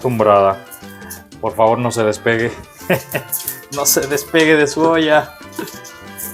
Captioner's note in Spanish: risas